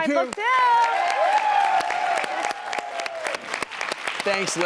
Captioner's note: applause; cheering